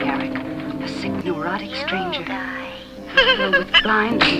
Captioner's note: giggles